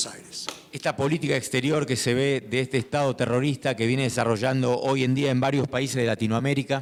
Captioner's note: speaking in foreign language